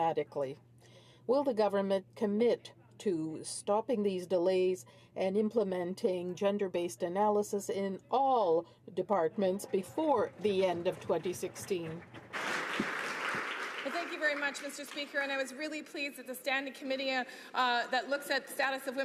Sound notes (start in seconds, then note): 15.0 some Applause